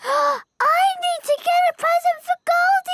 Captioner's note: gasps